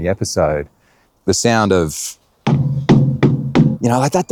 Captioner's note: metal clanking